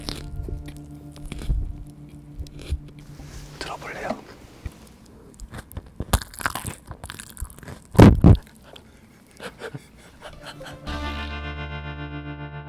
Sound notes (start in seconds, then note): 8.3 kkya-ha-hang!!!